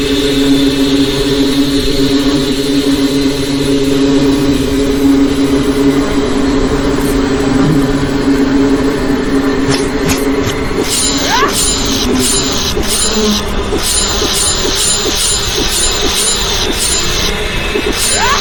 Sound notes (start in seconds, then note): 9.6 Xu Xang grunting; 10.5 sword clanging